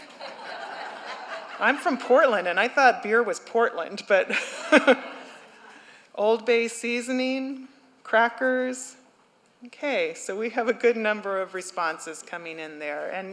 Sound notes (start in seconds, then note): 0.6 laughter